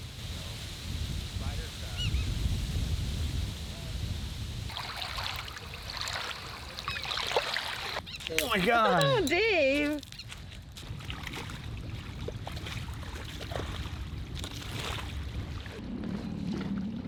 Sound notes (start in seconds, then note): 0.2 leaves rustling; 4.8 tide splashing; 10.7 water splashing